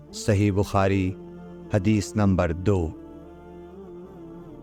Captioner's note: in Urdu / Hindi